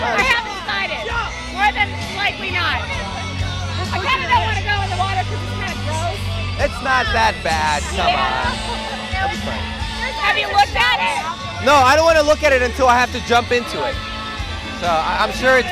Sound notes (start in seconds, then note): 8.0 cheering